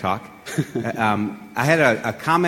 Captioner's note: laughs